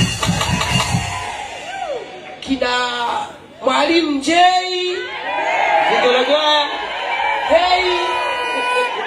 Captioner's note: shout